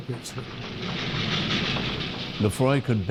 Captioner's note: train rattling